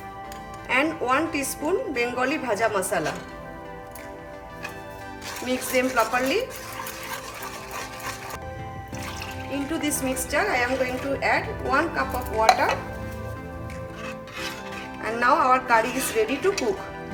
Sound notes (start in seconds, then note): 0.1 gentle music; 3.4 gentle music; 9.1 pours water; 13.0 gentle music